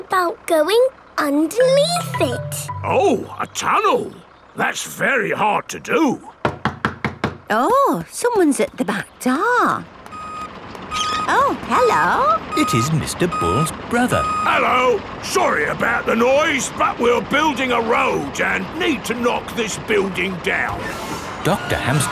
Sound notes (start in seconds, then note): 6.4 knocking at door